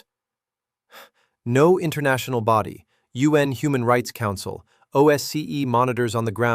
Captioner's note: exhales sharply